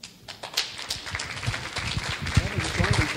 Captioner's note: clapping